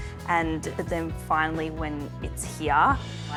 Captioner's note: none